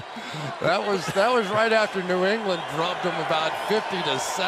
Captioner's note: laughs